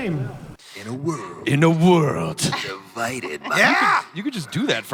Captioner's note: speaking with the voice of Don LaFontaine